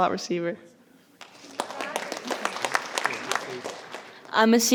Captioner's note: audience applauding